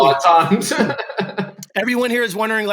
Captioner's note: laughter